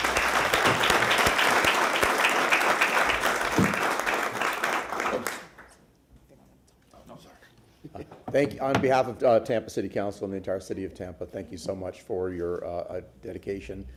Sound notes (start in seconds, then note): 1.7 applause